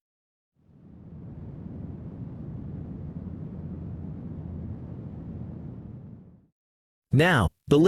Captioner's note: volcano Rumble from a Distance